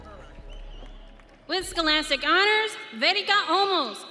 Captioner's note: audience cheering